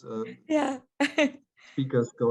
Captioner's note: light laughter